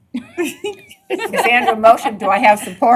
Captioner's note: laughter